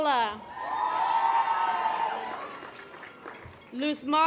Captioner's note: audience applause